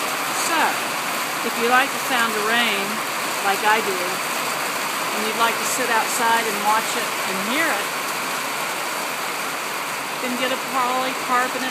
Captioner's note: sound of rain